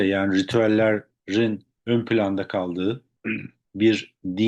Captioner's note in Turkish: boğazını temizler